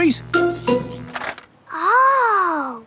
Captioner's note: buzzing